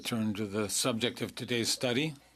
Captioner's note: speaking French